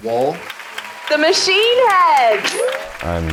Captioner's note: crowd clapping